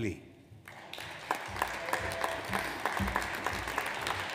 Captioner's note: audience applauds